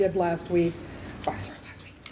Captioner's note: whispers